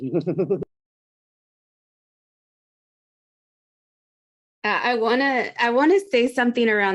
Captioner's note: laughs